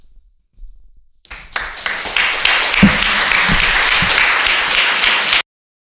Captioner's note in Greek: Χειροκρότημα